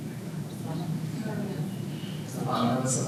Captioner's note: audience members murmuring